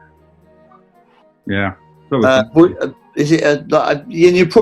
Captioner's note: stammering